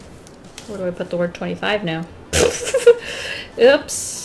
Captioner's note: laughs